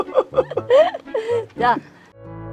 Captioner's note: both laughing